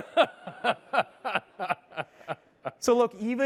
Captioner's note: laughter